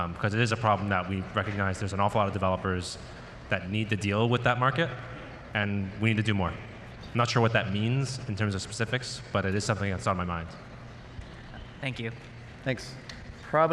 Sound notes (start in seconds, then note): none